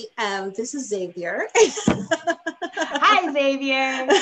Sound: laughing

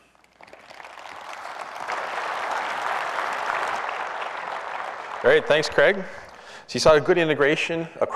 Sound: applause

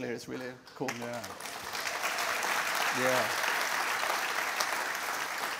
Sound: applause

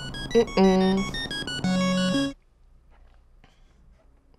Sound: hums

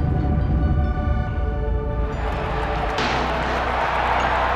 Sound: crowd Cheering

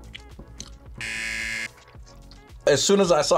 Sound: buzzer rings

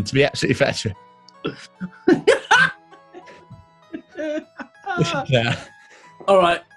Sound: laughing

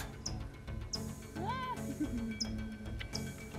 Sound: laugh

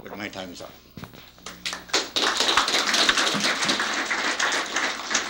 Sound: applause

